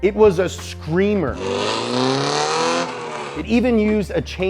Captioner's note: car engine revving